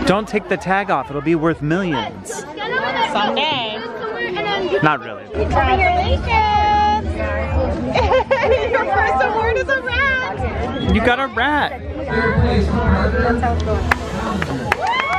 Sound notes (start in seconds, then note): 7.9 laughs; 13.6 crowd applauding